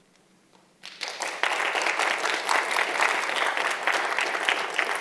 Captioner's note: audience applauding